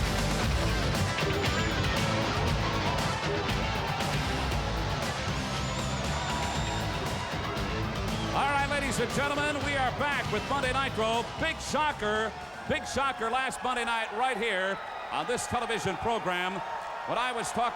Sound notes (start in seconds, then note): 4.0 crowd cheering